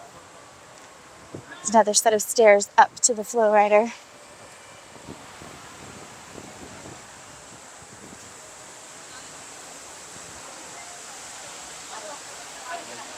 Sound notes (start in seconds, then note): 5.4 noise of water